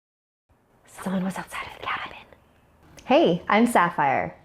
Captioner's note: whispers